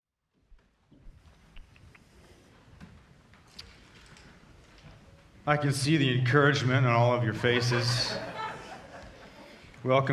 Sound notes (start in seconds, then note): 0.4 quiet rustling; 7.1 audience laughing